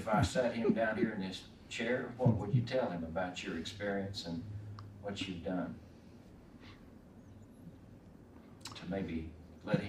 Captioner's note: chuckles